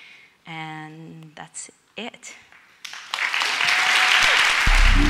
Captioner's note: audience applauds